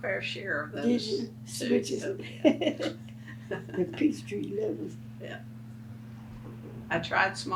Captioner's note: laughs